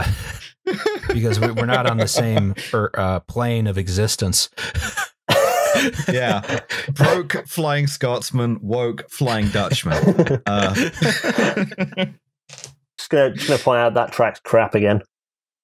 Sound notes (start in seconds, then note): 0.0 laughs; 4.6 laughter; 9.2 laughter